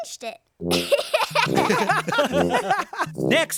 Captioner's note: giggling